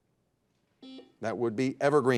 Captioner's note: buzzer dings